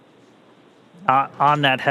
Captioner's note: sound Effects